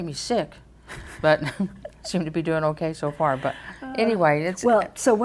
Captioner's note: laughs